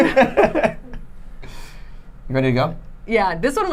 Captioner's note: laughing